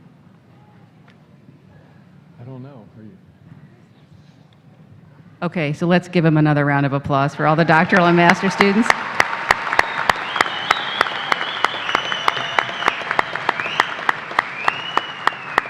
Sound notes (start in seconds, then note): 7.4 applause